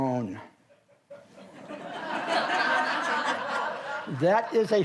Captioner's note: audience laughs